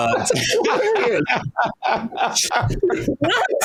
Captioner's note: laughing